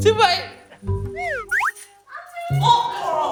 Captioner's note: exerting